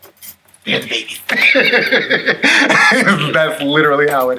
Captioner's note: laughs